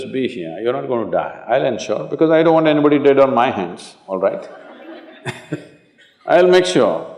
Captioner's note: laughter